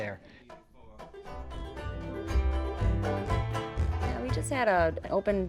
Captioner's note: crowd cheering